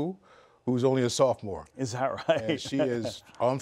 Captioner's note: laughs